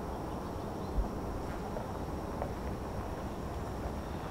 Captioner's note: birds chirping